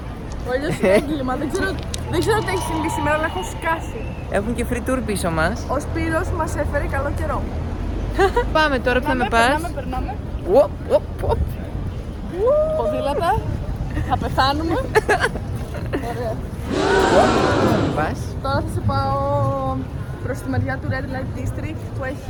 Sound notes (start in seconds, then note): 14.8 giggles